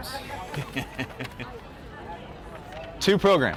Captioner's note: laughs